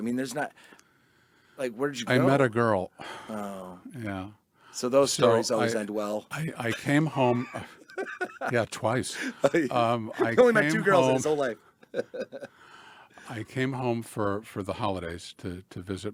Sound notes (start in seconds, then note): 6.4 laughs